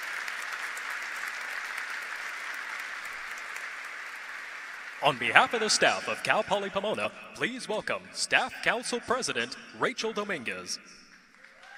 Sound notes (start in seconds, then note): 0.0 applause